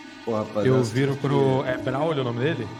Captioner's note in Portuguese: none